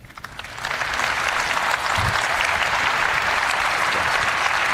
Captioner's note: applause